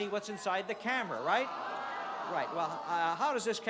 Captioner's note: audience groans